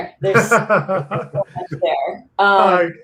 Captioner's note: laughs